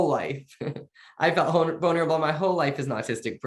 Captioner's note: chuckling